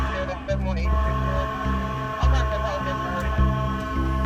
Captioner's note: sirens blaring; voices on police radio